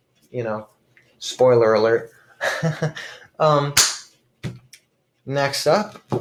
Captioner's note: laughs uncomfortably